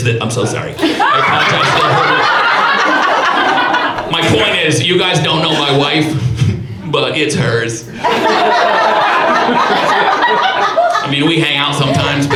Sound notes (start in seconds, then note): 0.7 audience laughs; 7.8 audience laughs